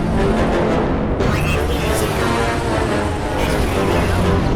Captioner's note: vulture droid rambling